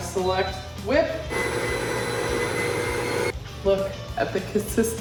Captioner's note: mixer whirring